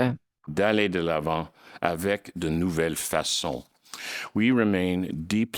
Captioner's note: speaking in French